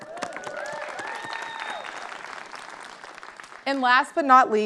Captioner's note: audience clapping